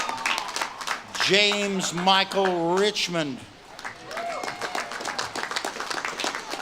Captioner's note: audience claps and cheers